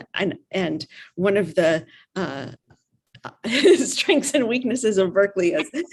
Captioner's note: chuckles